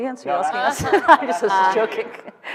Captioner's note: laughing